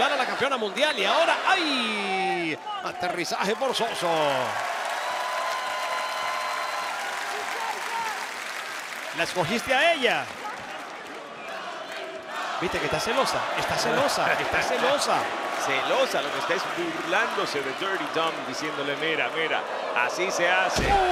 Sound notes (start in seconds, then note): 5.0 applause